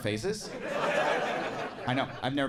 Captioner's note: audience laughing